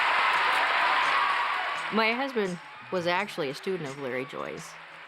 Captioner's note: people applauding